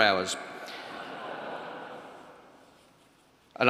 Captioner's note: laughter